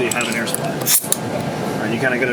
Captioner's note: air hisses